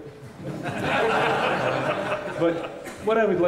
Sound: laughter

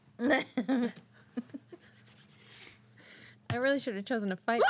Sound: girl laughs

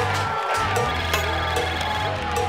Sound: ringing

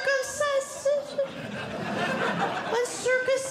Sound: audience Laughing

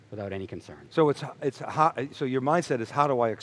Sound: mumbles

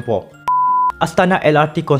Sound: beep

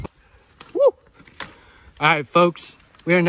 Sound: screams

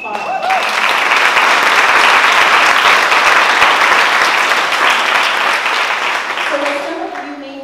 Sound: applause

